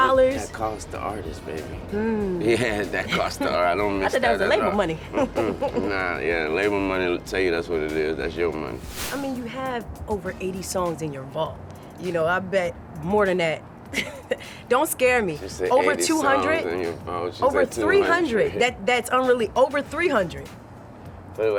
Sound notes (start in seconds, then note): 13.9 chuckles